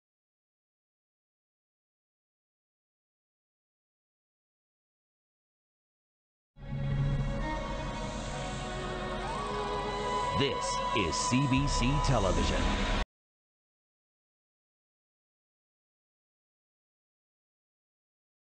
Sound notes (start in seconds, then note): 13.5 silence